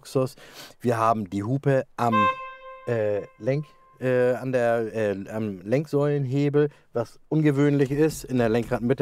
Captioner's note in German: Hupgeräusch